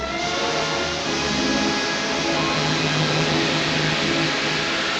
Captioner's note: steam hissing